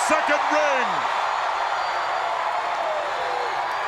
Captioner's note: crowd cheering